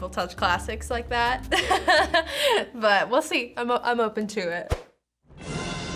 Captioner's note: laughs